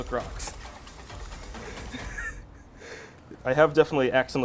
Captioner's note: laughs